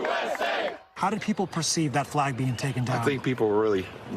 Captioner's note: applause